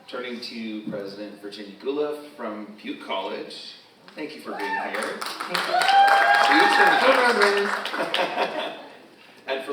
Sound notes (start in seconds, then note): 4.5 audience cheers; 5.6 audience member cheers; 7.8 all laughing